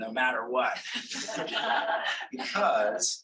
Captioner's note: audience laughing